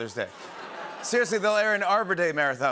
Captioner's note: awws and laughter